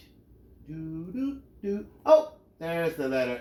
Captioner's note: humming